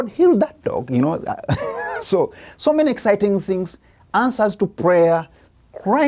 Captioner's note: laughs